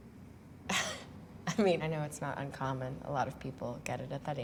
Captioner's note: laughs